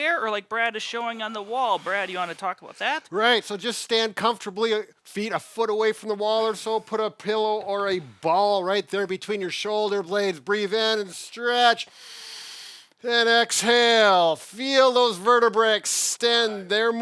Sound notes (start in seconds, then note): 11.9 inhales deeply